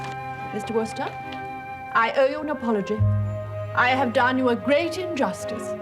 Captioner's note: none